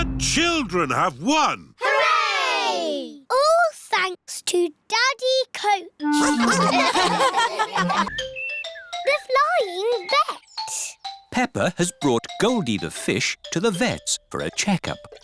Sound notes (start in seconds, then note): 6.1 all laugh